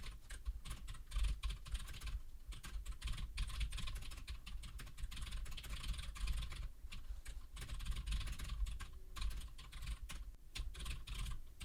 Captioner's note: typing sounds